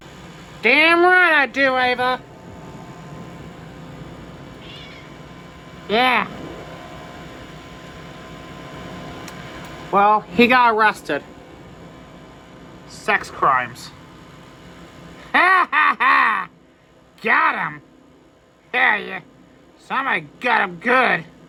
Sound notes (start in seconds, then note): 4.6 Caprice meows